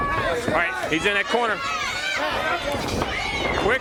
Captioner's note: crowd chatter